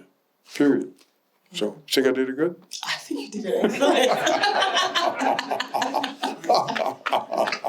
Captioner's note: laughter